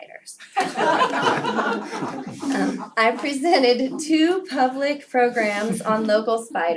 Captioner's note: laugh